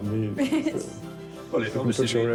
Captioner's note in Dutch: ze giechelt